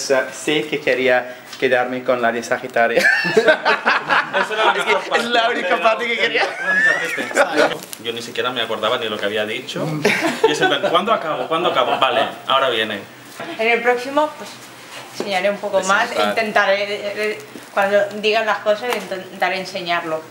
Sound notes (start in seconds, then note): 3.0 laugh